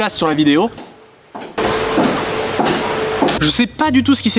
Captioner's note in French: Bruit d'aspirateur fort